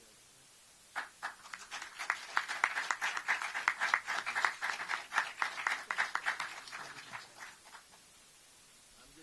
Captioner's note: applause